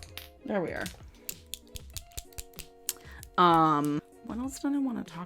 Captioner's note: eye liner clicking